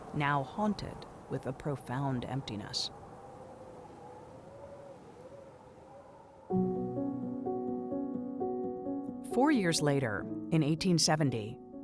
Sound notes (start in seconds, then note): 3.7 wind howling; 6.5 warm music